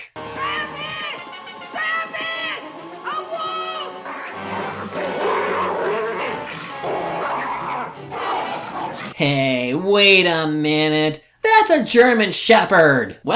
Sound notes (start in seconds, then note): 2.9 sounds of Old Yeller fighting with a wolf